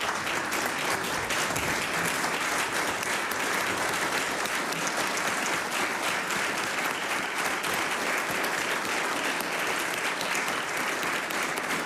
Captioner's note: applause